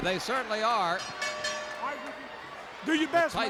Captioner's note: bell rings